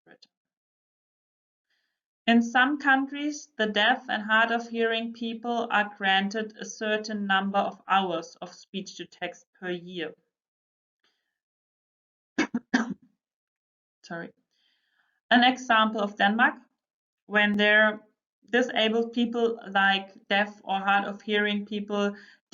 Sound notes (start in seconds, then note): 10.4 she coughs